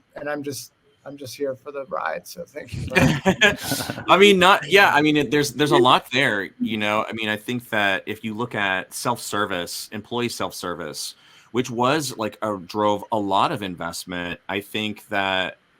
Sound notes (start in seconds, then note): 2.8 all laughing